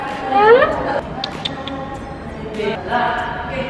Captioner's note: tsk tsk tsk